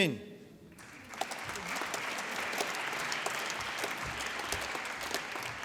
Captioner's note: applause